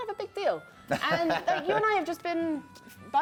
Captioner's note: laughs